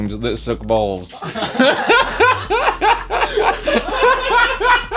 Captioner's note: laughs